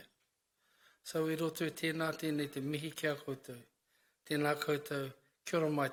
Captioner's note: speaks in foreign language